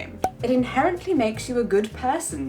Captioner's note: air popping